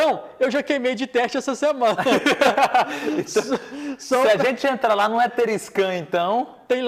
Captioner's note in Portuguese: risadas